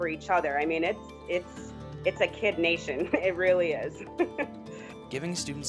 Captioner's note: laughing